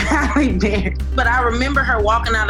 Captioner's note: laughs